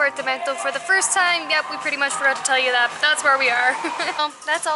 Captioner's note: laughter